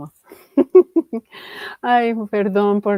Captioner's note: ríe